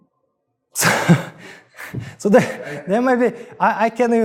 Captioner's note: laughs